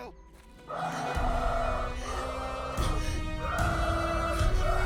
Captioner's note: Dalton growling